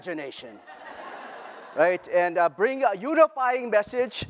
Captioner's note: laughter